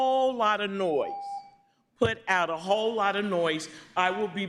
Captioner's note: beep